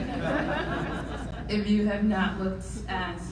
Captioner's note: audience laughing